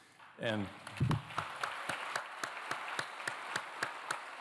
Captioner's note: applause